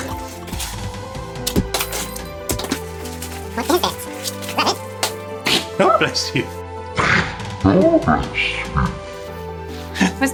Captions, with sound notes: (exaggerated packaging thudding) (dog sneezing) - Bless you. (dog sneezing) Bless you.